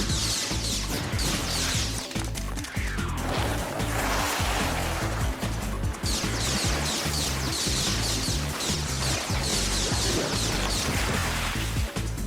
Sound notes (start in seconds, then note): 0.1 blasts; 3.2 whoosh; 6.8 blasts